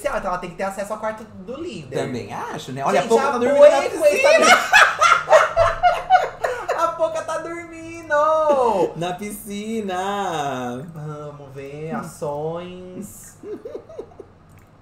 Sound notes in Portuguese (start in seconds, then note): 4.0 gargalhada